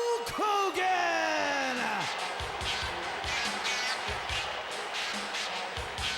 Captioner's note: crowd cheering; upbeat music